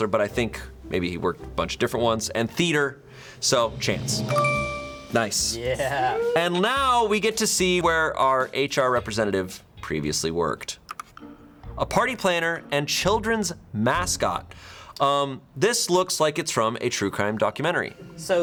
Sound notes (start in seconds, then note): 3.1 tense music building; 4.1 bell chimes; 4.3 button clicks; 10.9 button clicks; 10.9 quirky intriguing music